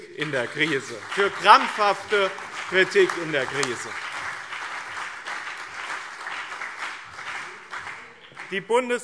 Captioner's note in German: Beifall BÜNDNIS 90/DIE GRÜNEN und CDU